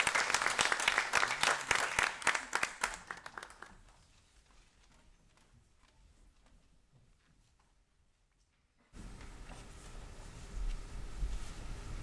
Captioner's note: audience cheering